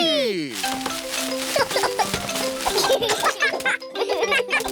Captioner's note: peppa and george giggle